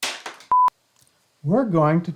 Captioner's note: beeping